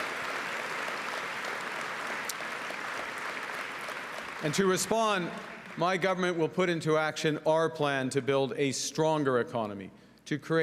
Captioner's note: cheering and Applause